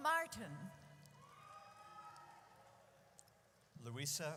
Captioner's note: audience cheers